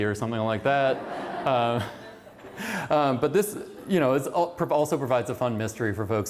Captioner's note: laughter